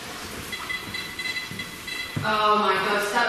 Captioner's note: beeping